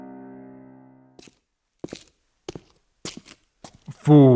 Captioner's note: footsteps